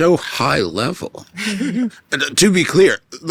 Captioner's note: chuckling